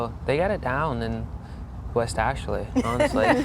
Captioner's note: laughing